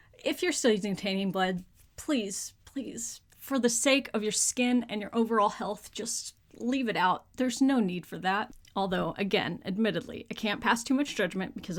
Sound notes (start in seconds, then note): none